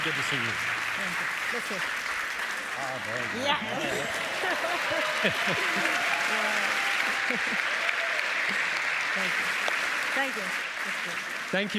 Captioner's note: applause